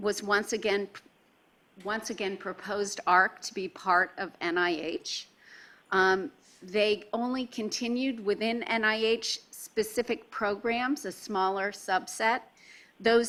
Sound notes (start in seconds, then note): none